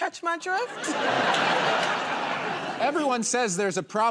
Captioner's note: laughter